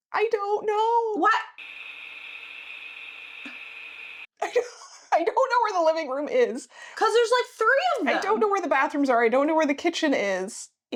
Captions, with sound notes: I don't know. What? (buzzing) I don't know where the living room is. Cause there's like three of them. I don't know where the bathrooms are. I don't know where the kitchen is.